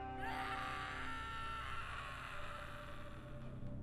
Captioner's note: screams